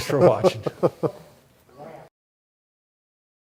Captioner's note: laughs